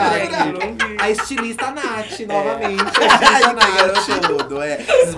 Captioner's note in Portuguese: risos